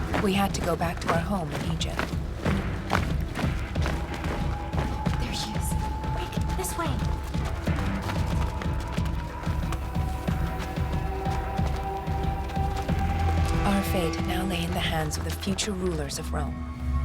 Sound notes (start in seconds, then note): 2.6 footsteps thudding